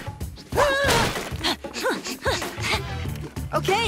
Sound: panting

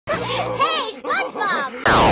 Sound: laughter

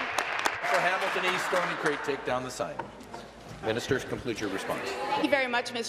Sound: applause

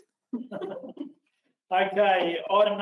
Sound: laughing

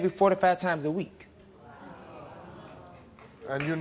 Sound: audience awws; audience applause

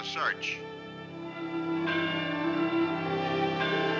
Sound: bells ringing

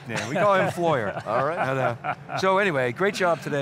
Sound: laughter

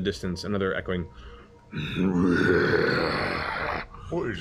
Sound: growl

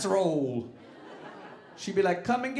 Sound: audience laughing

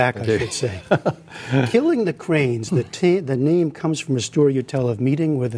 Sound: laughter

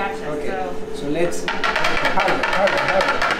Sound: chocolate mold tapping

